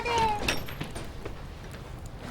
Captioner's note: door opening